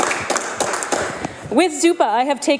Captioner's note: applause